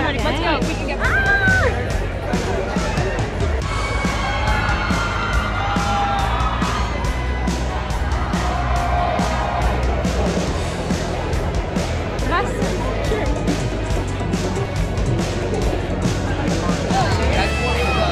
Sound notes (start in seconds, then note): 2.3 people cheering; 3.8 upbeat music; 12.4 people chattering; 12.4 upbeat music